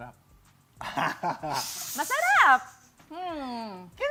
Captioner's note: laughter